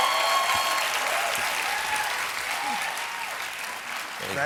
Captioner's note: cheers and applause